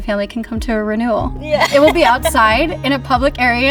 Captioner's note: laughs